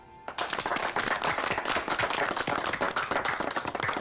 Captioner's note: applause